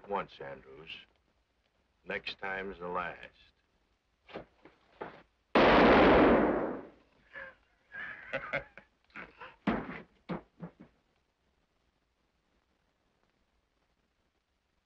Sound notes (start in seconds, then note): 5.5 guns bang; 7.9 Bailey laughs; 9.6 Bailey thuds